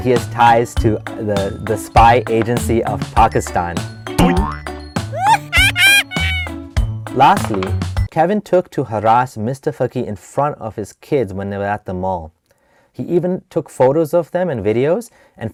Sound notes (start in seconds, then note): 4.2 bouncy ding; 5.1 goofy laughing